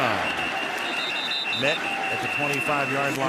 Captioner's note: whistle